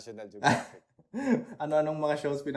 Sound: laughs

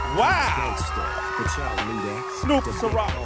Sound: applause

